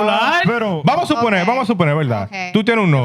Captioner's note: speaking In Foreign Language